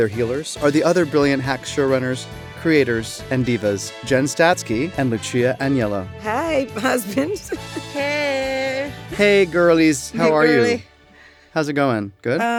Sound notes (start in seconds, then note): 6.6 laughs